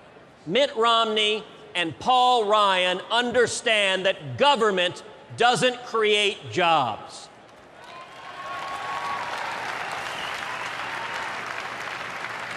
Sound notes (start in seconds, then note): 7.7 applause, cheers